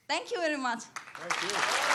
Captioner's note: applause